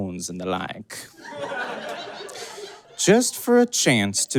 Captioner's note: audience cackles